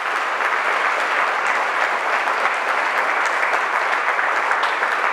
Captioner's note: applause